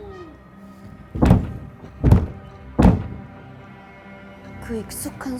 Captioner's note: the same repeated 'thump, thump, thump' sound again